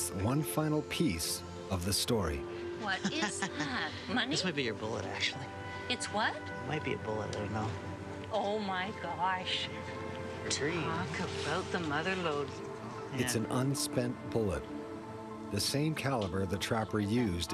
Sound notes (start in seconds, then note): 13.3 voiceover